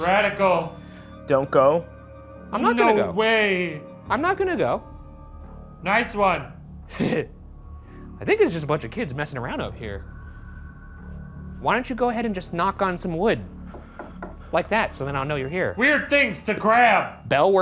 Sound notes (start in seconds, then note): 6.9 Ryan chuckles; 13.7 knocking; 15.0 bell dings